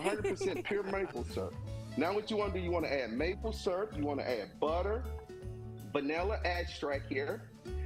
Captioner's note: laughter